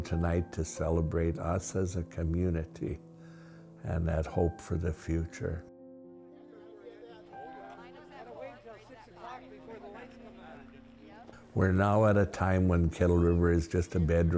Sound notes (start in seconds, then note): 6.2 chatter